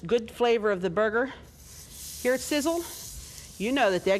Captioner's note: sizzling